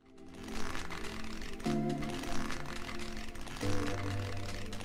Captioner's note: pages fluttering